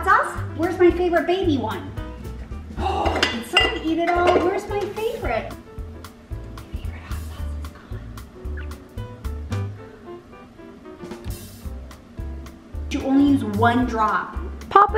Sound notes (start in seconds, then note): 2.8 gasps; 9.1 upbeat music